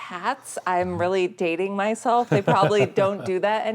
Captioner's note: laughing